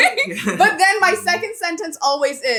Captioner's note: both laughing